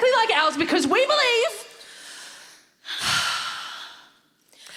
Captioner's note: deep breaths